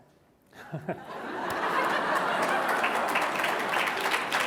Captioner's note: laughter